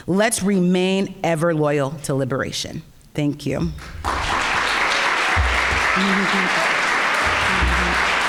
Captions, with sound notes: Let's remain ever loyal to liberation. Thank you. (audience applauding)